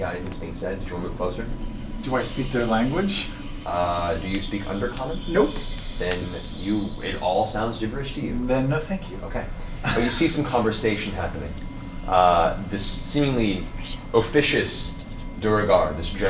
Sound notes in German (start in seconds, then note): 9.8 lacht